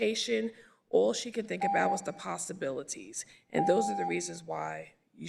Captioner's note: beep